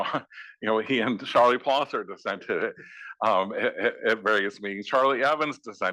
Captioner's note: laugh